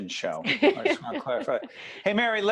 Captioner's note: laughing